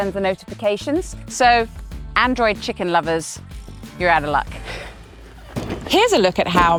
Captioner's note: chuckles